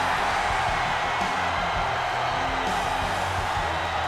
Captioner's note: audience cheers